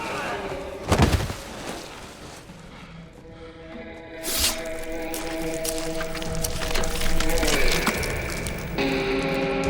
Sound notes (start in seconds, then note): 0.9 thud